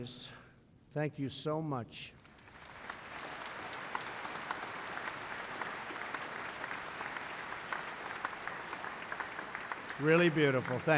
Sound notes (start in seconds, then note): 2.1 applause